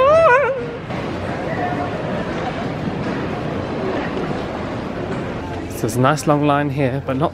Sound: commuters chatting indistinctly

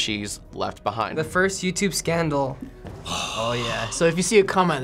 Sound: dramatic gasp

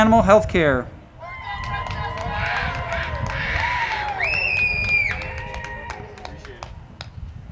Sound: crowd clapping and cheering; choral music

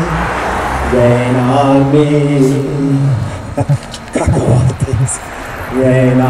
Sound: laughing

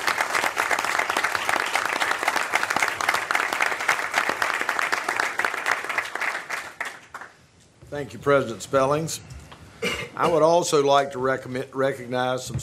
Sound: applause

